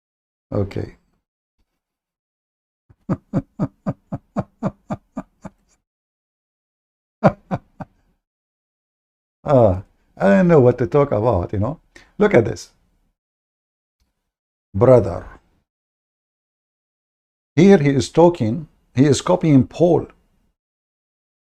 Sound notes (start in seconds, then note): 2.9 Ketawa